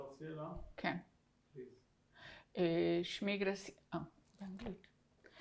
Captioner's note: hebrew; hebrew